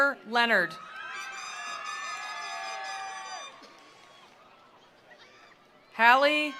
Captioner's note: attendees cheering; attendees applauding